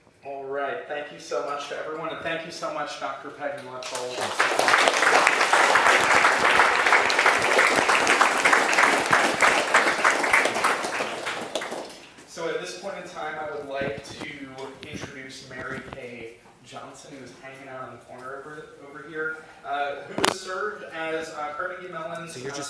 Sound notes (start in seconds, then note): 3.8 applause